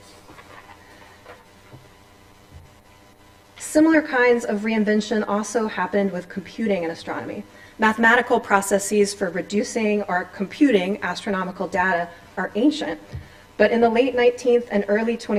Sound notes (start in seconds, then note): none